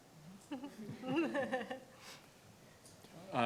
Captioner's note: laughs